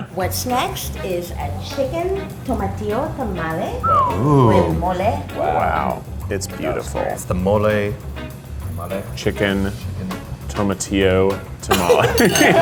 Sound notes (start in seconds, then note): 3.5 whistles; 11.7 laughing